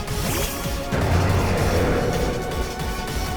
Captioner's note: Roaring Moon's cry